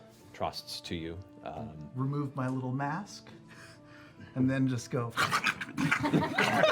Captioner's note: eating noises; laughter